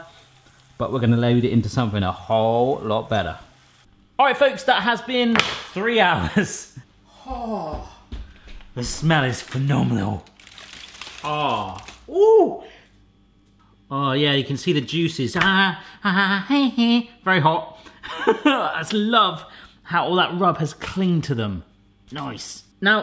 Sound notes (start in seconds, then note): 5.5 banging; 6.4 laughing; 18.1 laughing